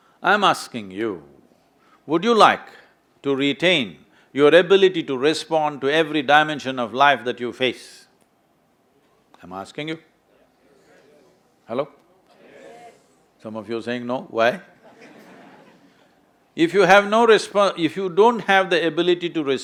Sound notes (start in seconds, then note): 14.7 laughter